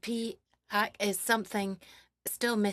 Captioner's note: speaking French